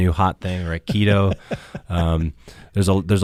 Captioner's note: interviewer laughs